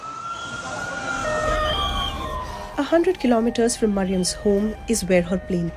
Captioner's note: siren blaring